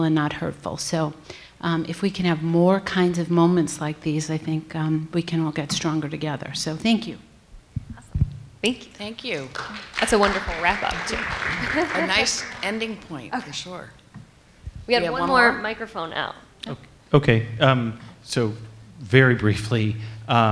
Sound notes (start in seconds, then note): 9.3 applause